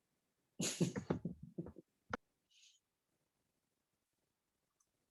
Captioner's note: laughing